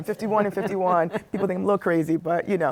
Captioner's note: laughing